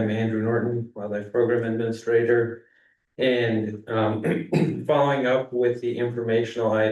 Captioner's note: clears throat